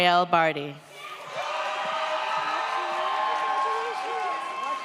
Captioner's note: audience cheers